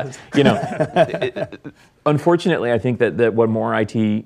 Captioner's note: laugh